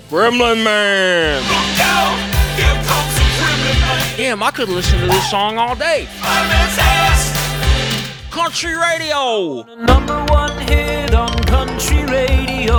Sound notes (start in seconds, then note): 0.1 in a deep voice; 4.3 regular voice